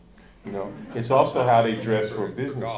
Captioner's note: audience laughing